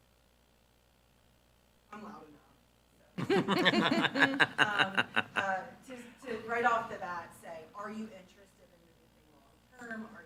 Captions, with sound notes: I'm loud enough, so. (members laughing) To right off the bat say, are you interested in anything long term?